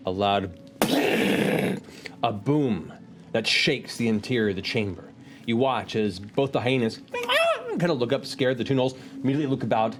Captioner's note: squeal